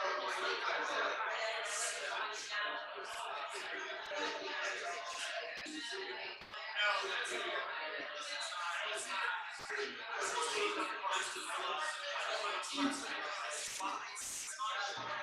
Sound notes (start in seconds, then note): 9.9 people chattering indistinctly